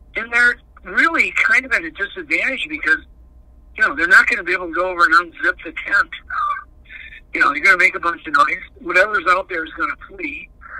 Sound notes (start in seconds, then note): none